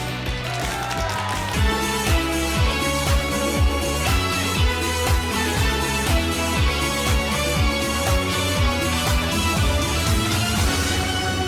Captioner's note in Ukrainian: оплески